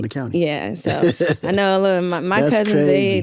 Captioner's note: laughs